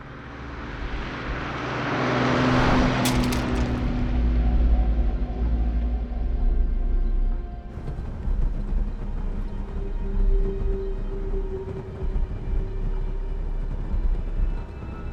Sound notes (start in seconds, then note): 3.0 phone clatters; 3.1 ominous music